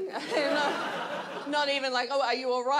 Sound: audience laughs

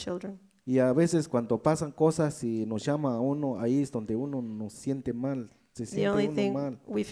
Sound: speaks in foreign language

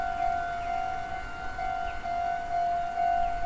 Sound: railroad crossing chimes

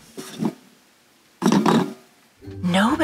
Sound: toilet paper roll clattering

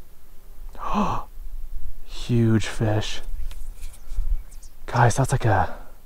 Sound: gasp

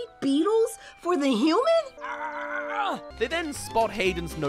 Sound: argh!

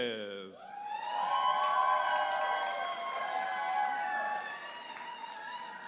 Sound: audience applauding and cheering

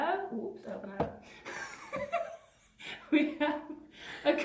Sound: laughs

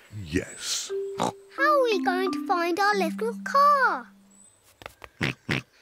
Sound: snorts

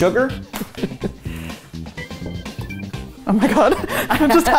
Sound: upbeat music; laughing

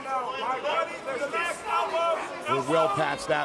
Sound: trainers shouting

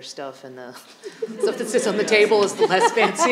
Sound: audience laughing

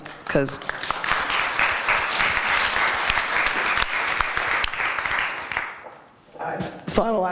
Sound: applause

